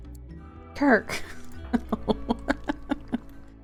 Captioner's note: laughs